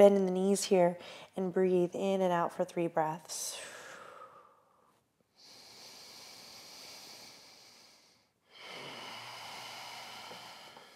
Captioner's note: deep breathing